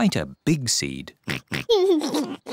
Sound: oinks and giggles

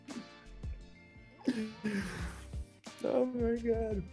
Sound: laughs

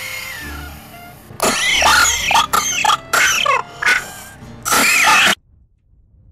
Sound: Chupachups coughs violently for an uninterrupted 4 seconds

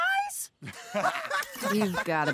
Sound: laughing

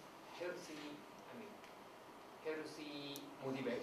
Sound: none

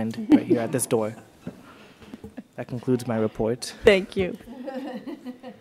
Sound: laughter

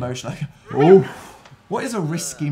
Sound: focused exhaling

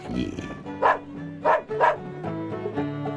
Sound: barking dog

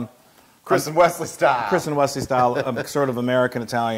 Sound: laugh

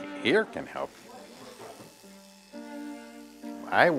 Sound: buzz

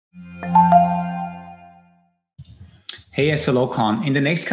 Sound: upbeat sound effects

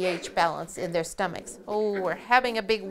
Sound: puppies growl softly; chuckles

